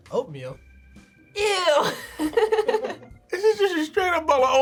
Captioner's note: laughs